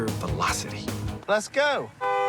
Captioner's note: horn honks